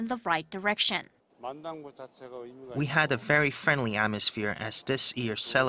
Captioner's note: Korean